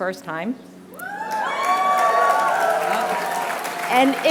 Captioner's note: applause